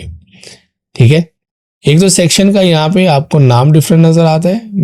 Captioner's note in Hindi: नाक से की जाने वाली आवाज़